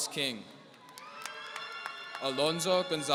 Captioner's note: audience cheering